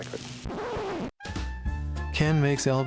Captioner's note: record scratches to a halt